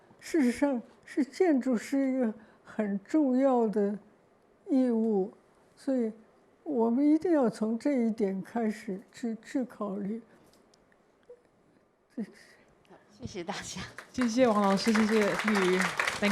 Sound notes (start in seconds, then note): 13.4 Mandarin; 13.6 applause; 15.1 Mandarin